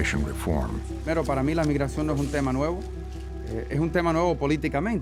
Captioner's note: speaking Spanish